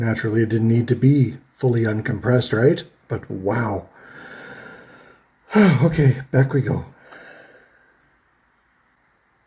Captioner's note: sighs